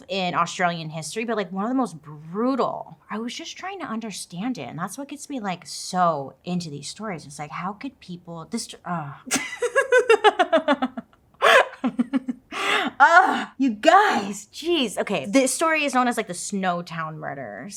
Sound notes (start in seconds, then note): 9.3 laughs